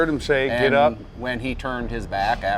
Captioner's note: voiceover